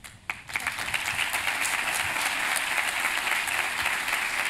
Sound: applause

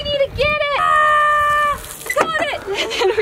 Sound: yells

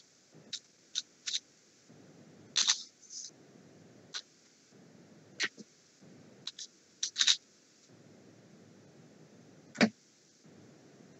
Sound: Sound of the Rubik's Cube

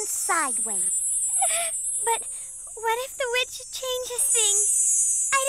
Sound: crying

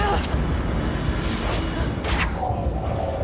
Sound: grunts

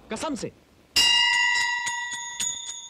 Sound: bell rings

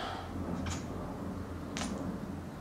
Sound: deep breath

